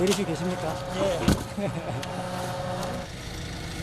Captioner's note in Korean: 웃음